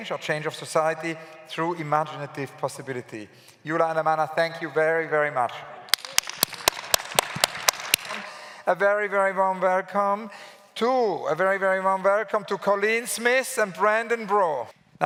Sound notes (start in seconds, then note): 5.9 claps